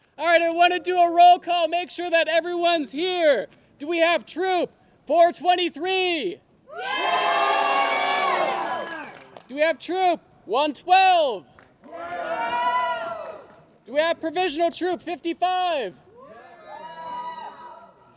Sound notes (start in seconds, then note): 6.7 cheers and applause; 11.8 cheers and applause; 16.6 cheers and applause